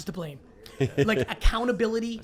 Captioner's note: laughs